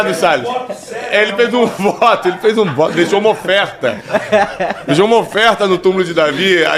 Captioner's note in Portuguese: risadas; risadas